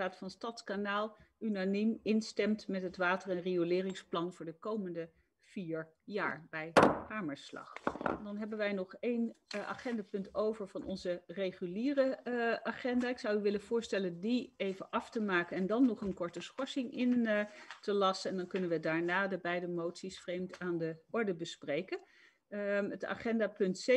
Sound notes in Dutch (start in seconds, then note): 6.8 Voorzitter klopt met hamer